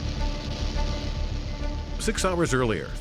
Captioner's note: planes taking off